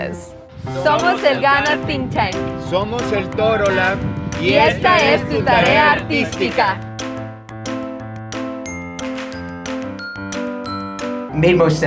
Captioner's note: speaking spanish